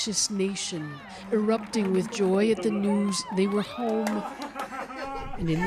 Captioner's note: cheers and Applause